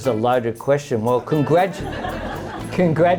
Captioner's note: laughter